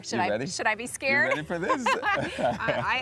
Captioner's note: laughs